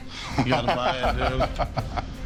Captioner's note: laughs